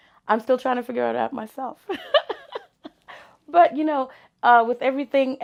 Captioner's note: laughs